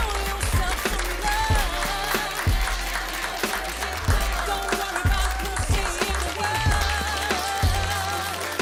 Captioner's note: applause